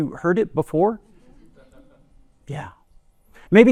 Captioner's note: laughter